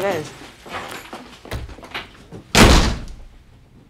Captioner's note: footsteps; bangs table; door banging